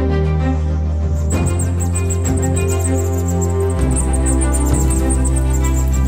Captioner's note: bat squeaks